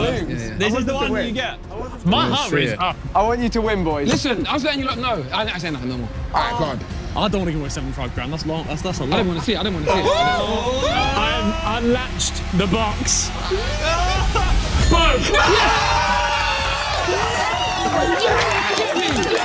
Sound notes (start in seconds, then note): 13.1 suspenseful music; 15.7 everyone cheering